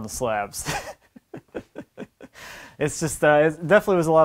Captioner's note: laughing